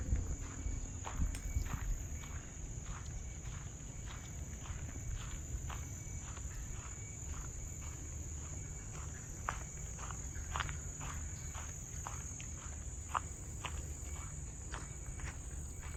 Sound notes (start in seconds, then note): 0.0 footsteps make crunching sound; 5.5 crickets chittering